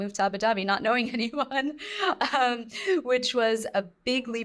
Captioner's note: chuckles